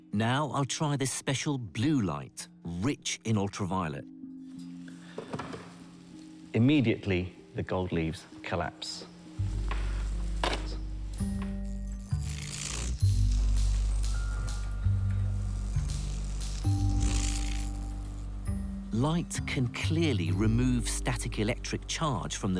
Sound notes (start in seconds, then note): 3.9 soft chiming mysterious music; 11.1 sparks snap; 12.1 static hisses